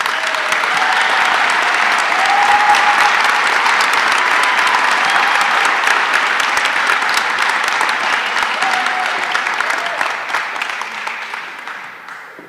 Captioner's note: applause